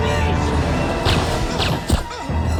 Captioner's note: guns firing; grunting